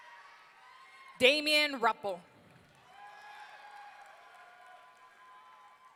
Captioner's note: audience cheering